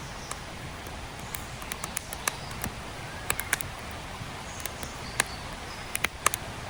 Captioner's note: charcoal fire crackling